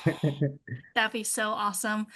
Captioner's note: laughs